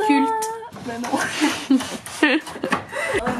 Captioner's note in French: Rires